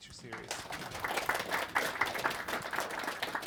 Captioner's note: applause